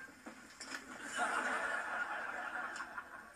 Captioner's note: canned generic laughter